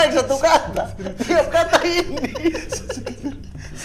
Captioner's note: laughing